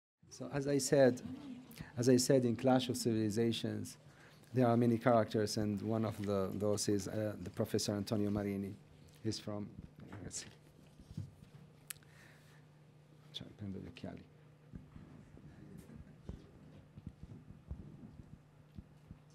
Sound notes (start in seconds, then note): 11.2 speaking italian